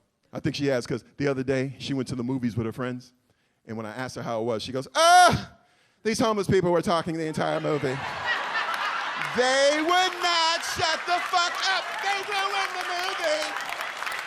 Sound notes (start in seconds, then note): 7.3 audience laughs